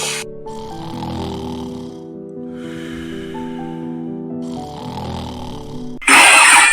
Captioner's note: snoring